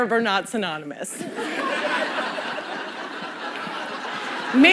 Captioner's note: laughter